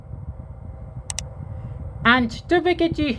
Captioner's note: click sound